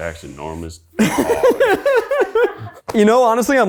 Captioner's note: laughs; people laugh